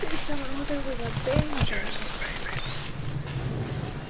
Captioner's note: whispering